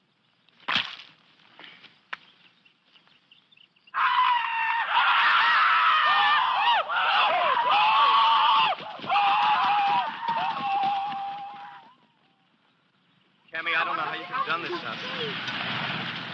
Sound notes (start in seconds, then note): 0.6 splattering; 3.9 screaming